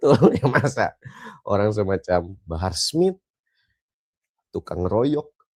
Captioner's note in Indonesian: tertawa